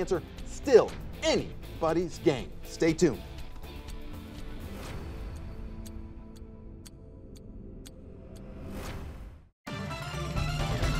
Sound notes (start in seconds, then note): 4.8 clock ticking; 9.7 intermission music